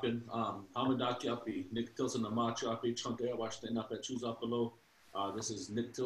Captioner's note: speaking in Lakota